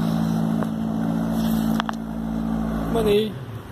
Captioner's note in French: bruit de moteur de bateau